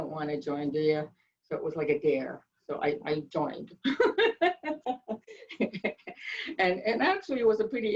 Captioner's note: laughs loudly